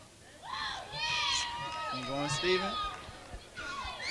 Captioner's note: crowd cheers